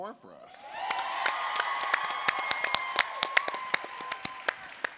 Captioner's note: audience cheering